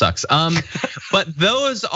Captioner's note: laugh